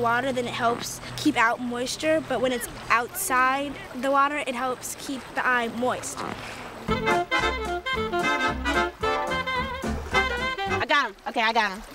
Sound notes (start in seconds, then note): none